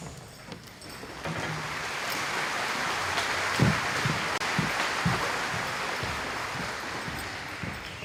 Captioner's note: applause